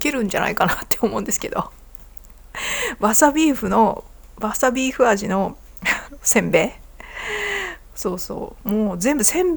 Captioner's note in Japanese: 息をのむ音